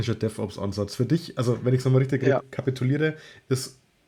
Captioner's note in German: lacht